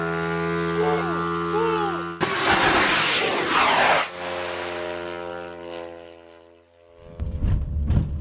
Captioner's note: explosion